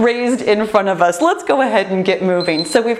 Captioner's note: timer beeps